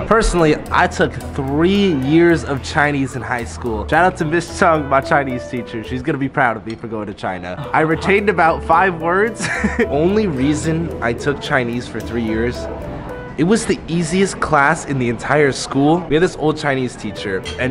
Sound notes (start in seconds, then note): 9.3 laughs